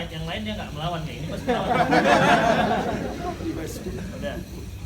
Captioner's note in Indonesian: Jama'ah tertawa